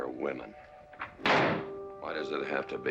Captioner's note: door slams